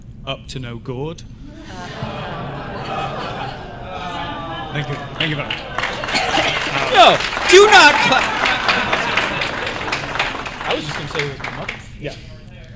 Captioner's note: groans and Applause